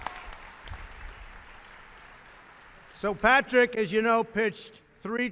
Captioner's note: applause